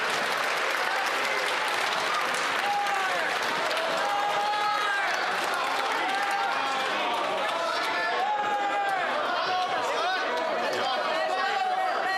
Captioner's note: cheering and Applause